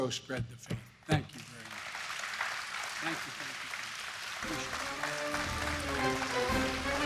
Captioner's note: applause